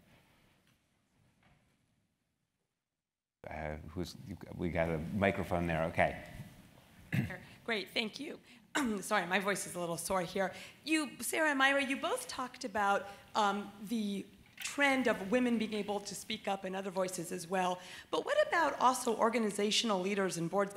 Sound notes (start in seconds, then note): 8.5 cough